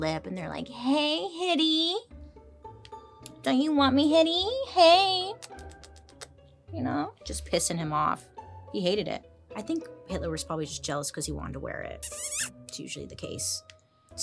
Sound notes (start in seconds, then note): 5.3 smooches; 12.0 lips smacking